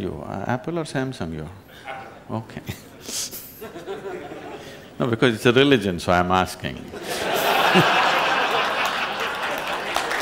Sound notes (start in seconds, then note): 2.6 laughs; 7.0 laughter/Applause